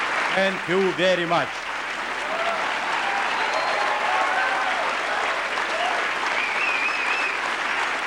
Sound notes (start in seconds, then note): 1.9 applause